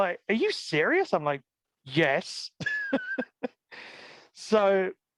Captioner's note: laughs